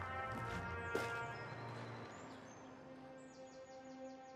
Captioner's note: birds chirping; gentle music